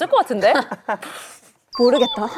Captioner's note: inhales